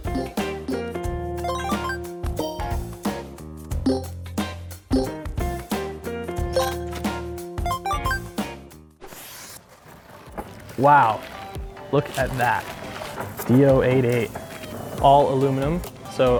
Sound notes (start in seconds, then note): 0.0 upbeat jazz music; 3.9 machine beeping